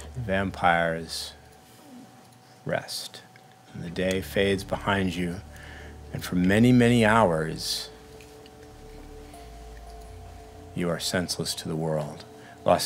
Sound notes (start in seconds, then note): none